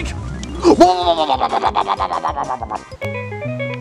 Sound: attacking noises

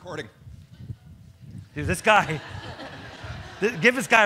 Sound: audience laughs

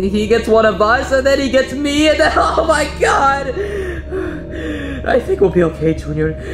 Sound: panting

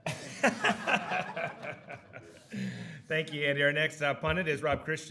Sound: audience laughing

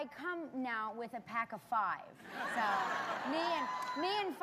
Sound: laughter

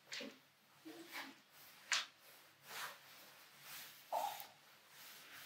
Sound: clothes rustling

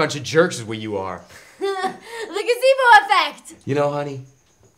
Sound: Kelsey chuckles

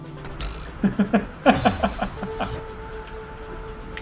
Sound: laughs

